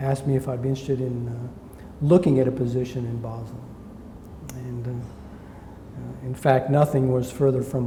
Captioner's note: smacks lips